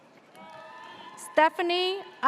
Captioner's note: audience cheers